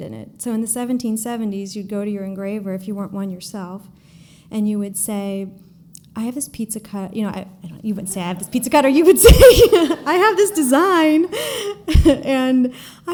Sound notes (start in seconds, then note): 8.8 giggle